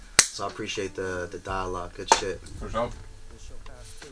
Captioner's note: claps